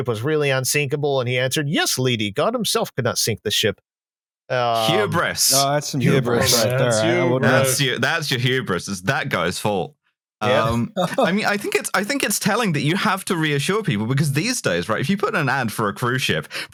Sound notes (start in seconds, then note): 10.4 laughs